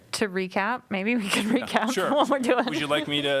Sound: laughter

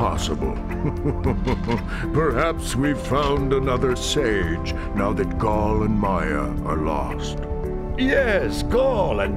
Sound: chuckles

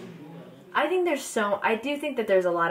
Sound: crowd talking

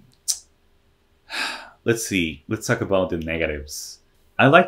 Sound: tired exhale

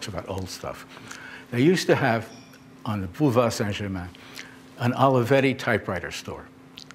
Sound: french

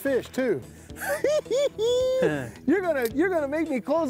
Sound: giggles

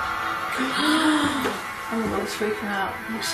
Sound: gasping

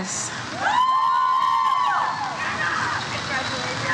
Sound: audience cheers "Woo"

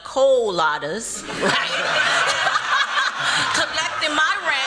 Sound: laughter

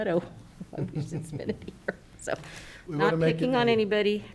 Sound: laughs

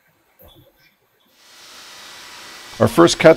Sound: machine noise

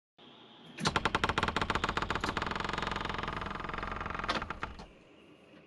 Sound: door creaking

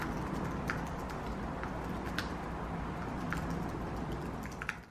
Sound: keyboard ASMR starting again

